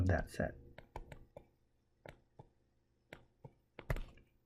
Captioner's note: tapping Sounds